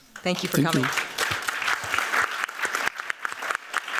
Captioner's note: applause